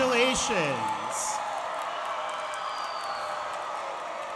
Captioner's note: applause